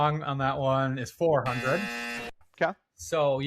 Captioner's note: buzzer